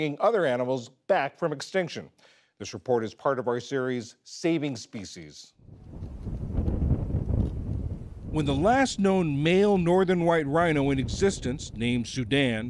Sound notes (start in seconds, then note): 8.6 voice-over